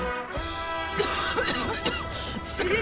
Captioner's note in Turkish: Öksürüyor